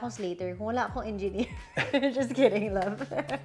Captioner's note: chuckles